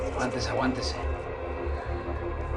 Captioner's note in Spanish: Habla entre dientes